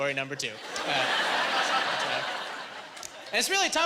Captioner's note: laughing